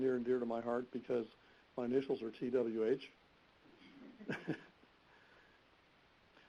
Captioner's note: laughing